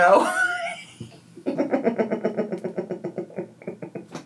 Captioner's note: laughing